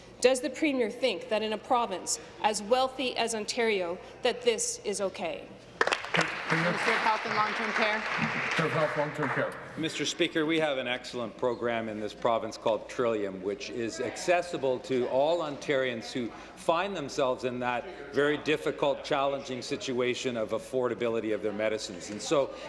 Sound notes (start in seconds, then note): 8.7 applause